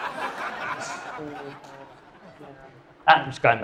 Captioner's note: audience laughing